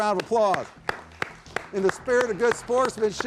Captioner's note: audience applauding